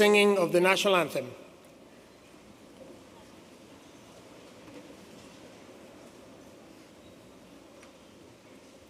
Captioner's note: speaking spanish